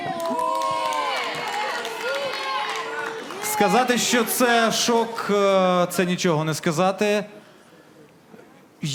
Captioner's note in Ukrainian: оплески